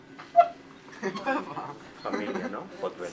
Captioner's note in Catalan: Risas